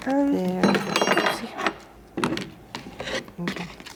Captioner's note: glass clangs